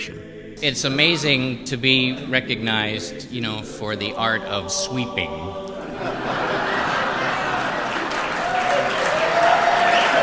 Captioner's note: laughter